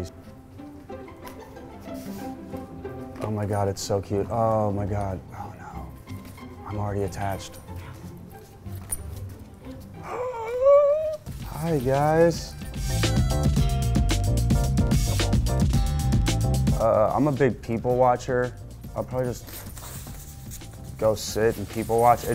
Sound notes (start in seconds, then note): 0.2 cheerful music; 10.0 dramatic gasp; 11.2 upbeat music